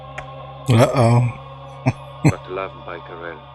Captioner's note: chuckling